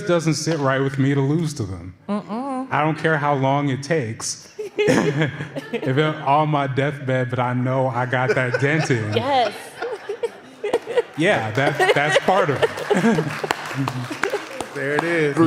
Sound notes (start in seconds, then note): 10.4 laughter; 13.7 applause